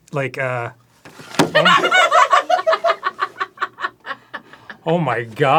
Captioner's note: laughing